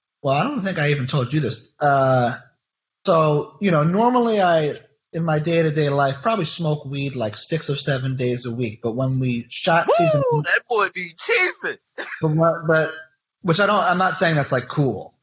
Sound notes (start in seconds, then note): 11.9 laughs